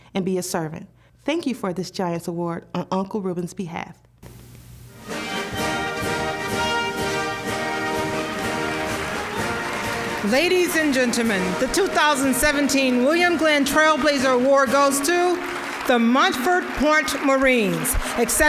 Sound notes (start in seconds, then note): 5.1 orchestral; 9.7 applause